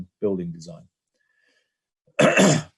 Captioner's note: cough